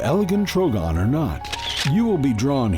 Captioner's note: sound of camera clicking